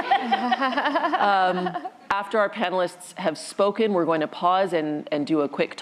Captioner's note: laughter